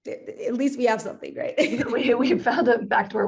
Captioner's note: participants laughing